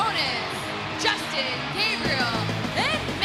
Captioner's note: crowd cheering